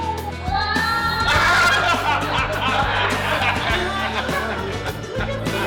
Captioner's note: laughing